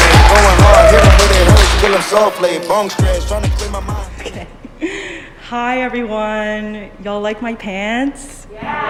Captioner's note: cheers